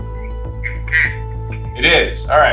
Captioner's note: on phone